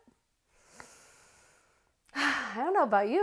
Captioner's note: sigh